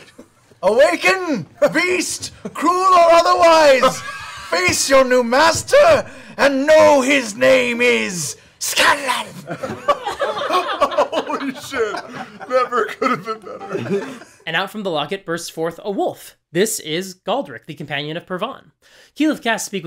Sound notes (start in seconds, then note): 0.4 yells; 9.4 laughter; 11.5 laughing